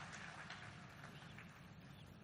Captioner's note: applause